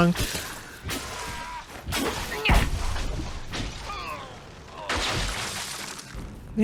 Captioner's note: magic Battle Noises and Grunting